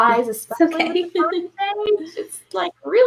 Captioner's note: chuckles